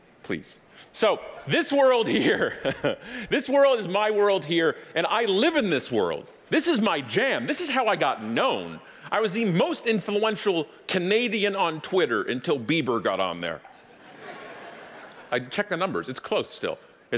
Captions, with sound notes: Please. So, this world here, (laughing) this world is my world here and I live in this world. This is my jam, this is how I got known, I was the most influential Canadian on Twitter until Bieber got on there. (audience laughing) Check the numbers, it's close still,